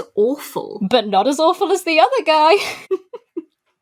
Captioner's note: lAUGHS